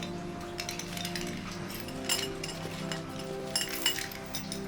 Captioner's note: chains rattling